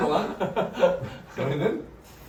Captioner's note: hahah